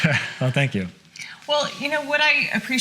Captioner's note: laughs